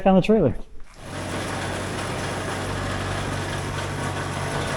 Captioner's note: machinery humming